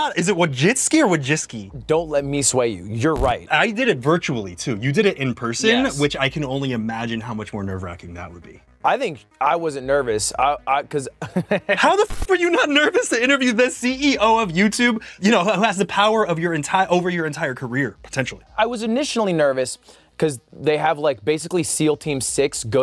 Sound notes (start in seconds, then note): 11.3 laughs